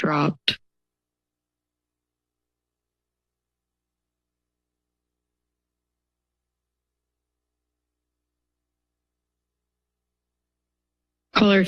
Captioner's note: silence